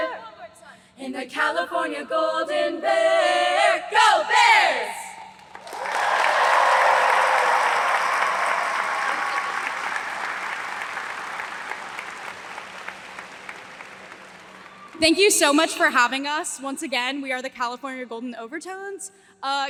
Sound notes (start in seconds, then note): 5.4 audience applauds